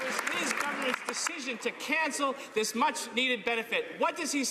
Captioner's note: some Applause